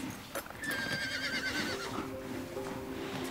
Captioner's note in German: Wiehern